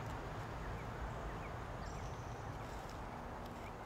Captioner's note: birds chirping